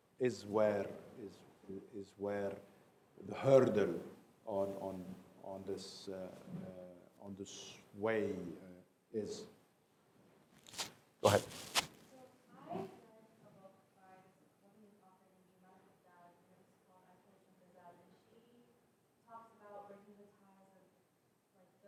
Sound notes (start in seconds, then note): 12.3 voiceover